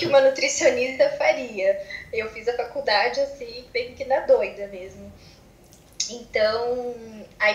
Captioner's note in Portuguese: risos